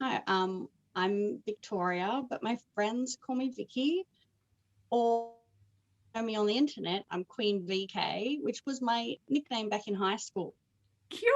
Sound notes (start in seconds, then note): none